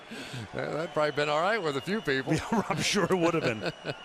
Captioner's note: laughs